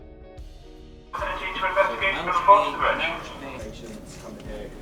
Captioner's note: naval intercom noises, in British